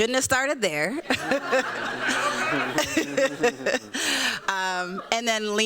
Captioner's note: laughter